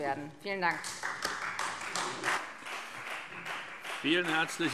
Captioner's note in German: Beifall Freie Demokraten